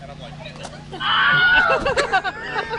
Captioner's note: screams; laughing